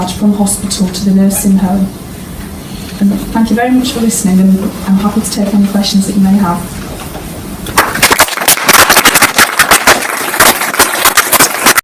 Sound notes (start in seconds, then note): 7.8 clapping